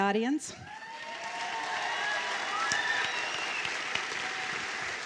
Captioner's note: applause and cheers